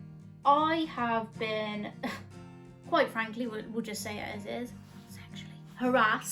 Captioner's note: whispers